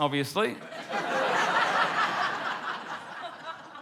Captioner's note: laughter